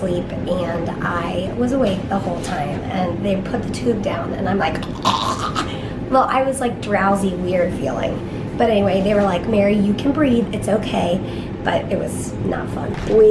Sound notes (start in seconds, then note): 4.8 gagging